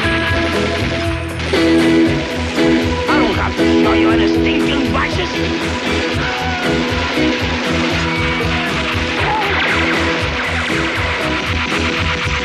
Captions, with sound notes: - I don't have to show you any stinkin' badges! (gunfire and yelling) (instrumental continues)